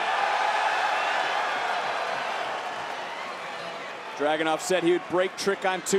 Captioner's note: applause